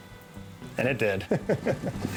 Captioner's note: chuckling